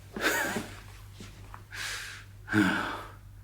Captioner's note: chuckling